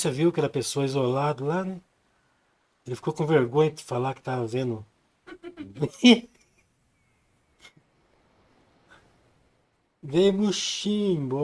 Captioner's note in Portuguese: risadas